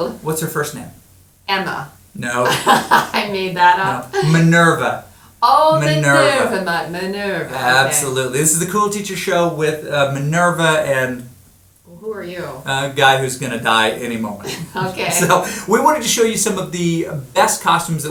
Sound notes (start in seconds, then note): 2.2 laughing